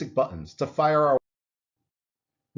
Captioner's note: audio cuts